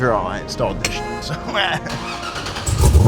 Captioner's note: laughs; honk; car engine whistling